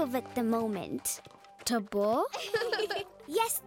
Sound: laughing

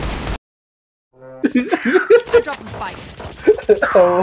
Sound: bee laugh

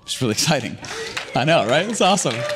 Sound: audience clapping

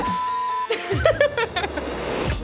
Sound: laughs

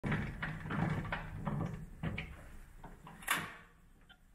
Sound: handle cranking

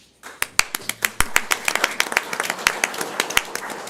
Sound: audience applauds

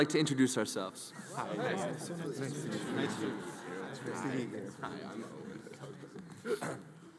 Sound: group members chattering; audience laughs

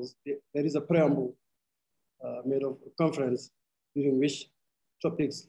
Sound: speaking arabic

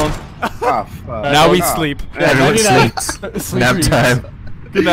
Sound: intense laughter

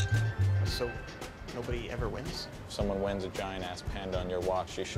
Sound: none

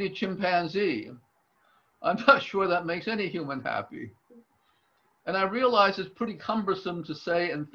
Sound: laughs

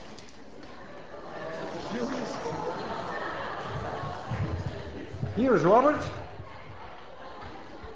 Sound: class cheers and laughs; laughter continues

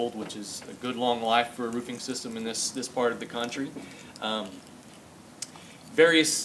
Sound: none

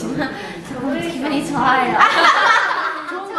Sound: laughing

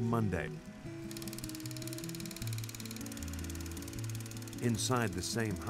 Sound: filmstrip clicking

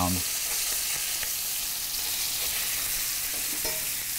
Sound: fish sizzling

